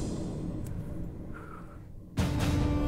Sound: breathing

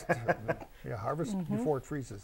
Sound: laughing

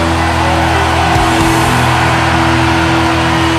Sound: audience cheers

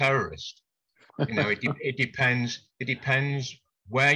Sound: laughs

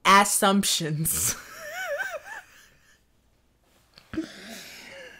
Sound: laughs

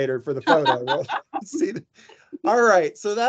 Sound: laughing

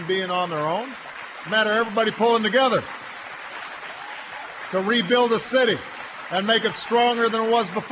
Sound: applause

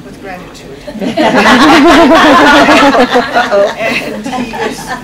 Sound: laughter

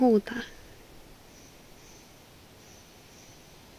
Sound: bird makes noise

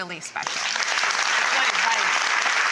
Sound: audience applause

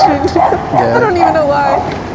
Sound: laughs

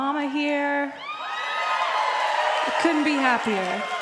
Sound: crowd cheering

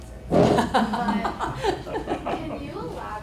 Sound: laughs

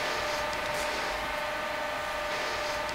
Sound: dull machine whirring

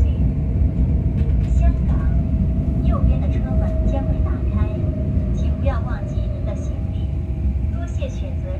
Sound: Mandarin

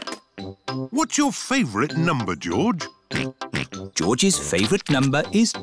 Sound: snorts

